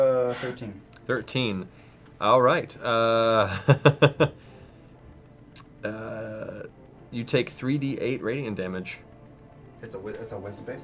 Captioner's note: chuckles